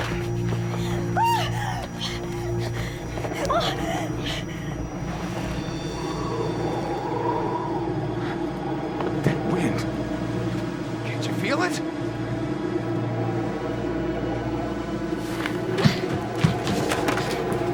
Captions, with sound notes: (wind howling) - That wind. Can't you feel it? (eerie music)